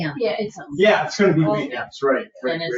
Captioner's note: people chattering